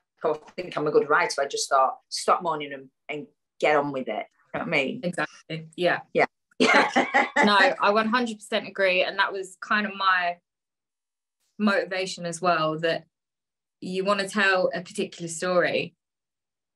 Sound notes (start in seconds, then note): 6.6 laughs